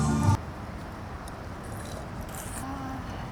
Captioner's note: rain falling